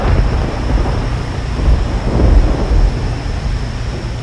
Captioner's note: thunder crashing